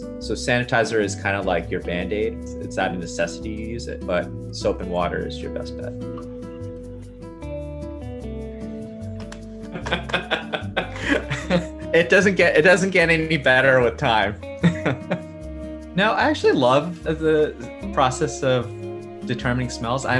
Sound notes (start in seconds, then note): 6.5 lighthearted music; 9.8 laughs; 14.6 laughs